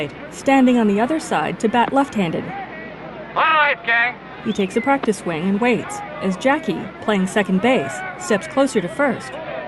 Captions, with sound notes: All right, gang! [indistinct shouting]